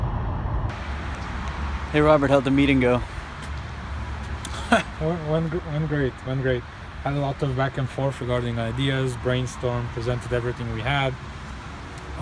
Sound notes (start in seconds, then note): 4.4 laughs